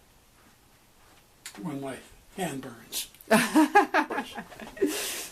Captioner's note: both laugh